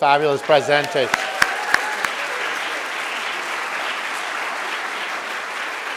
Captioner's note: audience cheering and applauding